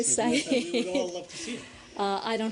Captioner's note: laughter